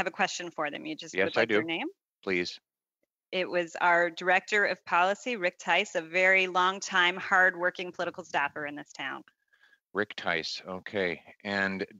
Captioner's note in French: voix de l'interprète